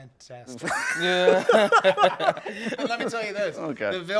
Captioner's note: laughing